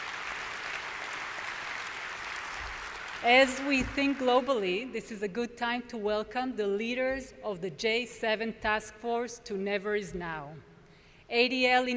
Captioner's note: applause